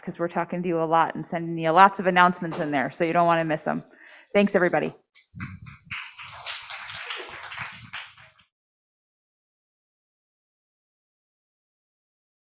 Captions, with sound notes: 'cause we're talking to you a lot and sending you lots of announcements in there. So you don't wanna miss them. Thanks, everybody. (audience clapping)